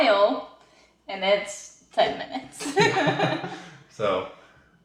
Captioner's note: laughing